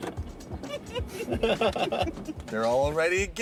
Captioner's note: laughter